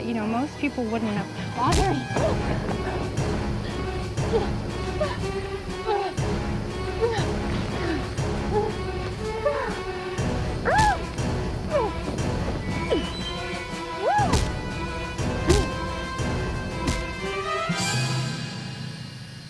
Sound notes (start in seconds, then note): 2.2 Jessica moaning; 4.0 dramatic music; 6.0 Jessica moaning; 8.6 dramatic music; 9.2 Jessica moaning; 12.4 dramatic music; 14.0 Jessica moaning; 15.8 dramatic music; 18.3 insects chirping